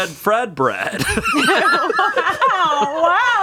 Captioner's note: everyone laughs